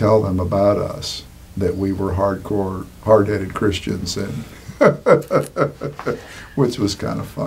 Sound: laughing

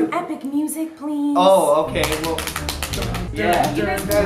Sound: smacking legs; others hum music

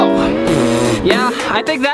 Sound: blows raspberry

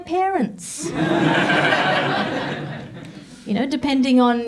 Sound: audience laughs

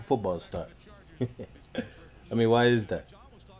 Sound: laughs

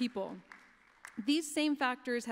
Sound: applause

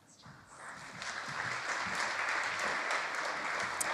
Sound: audience applauds

